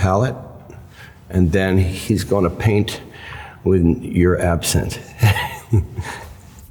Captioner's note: laughs